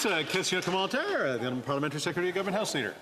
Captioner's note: some Applause